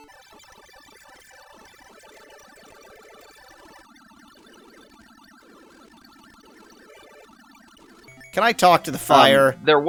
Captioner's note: awkward silence